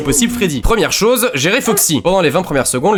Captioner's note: woof